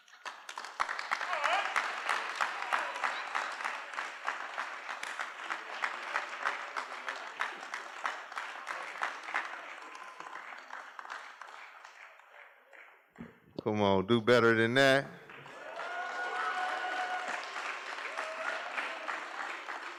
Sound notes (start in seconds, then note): 0.2 applause; 15.3 cheering